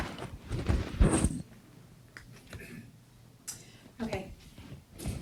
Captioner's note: microphone producing static